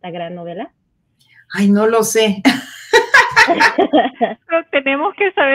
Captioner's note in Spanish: risas